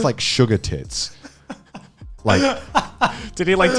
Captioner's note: laughing